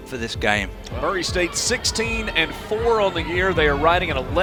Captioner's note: voiceover